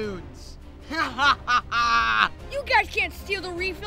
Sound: laughing

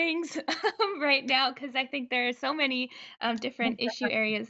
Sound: laughs

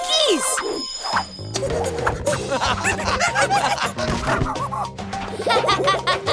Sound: monkey noises; laughing

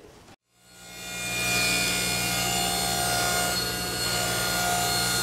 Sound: panel cutter buzzing

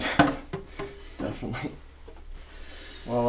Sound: Jonathan laughs

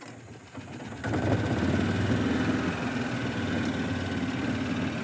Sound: engine rumbling

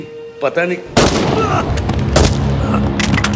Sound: gunshot

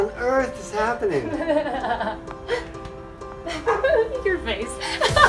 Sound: laughs

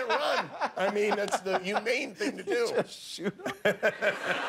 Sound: laughter

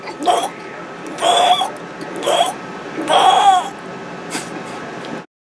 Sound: mouth sound

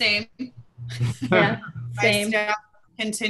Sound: laughter

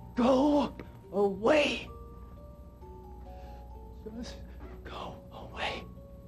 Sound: none

